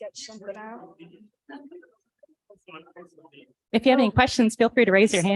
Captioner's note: indistinct chatter